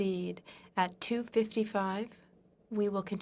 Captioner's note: speaking in French